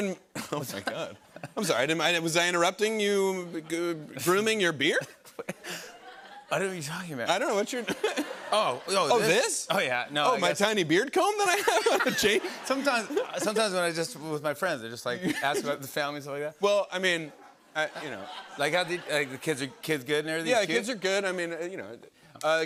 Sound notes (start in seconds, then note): 11.5 laughter